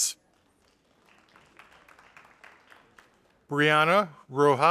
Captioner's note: audience applauding